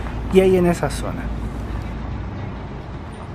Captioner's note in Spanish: sonido ambiente del bus